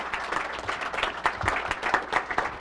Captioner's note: applause